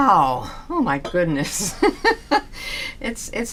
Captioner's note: laughs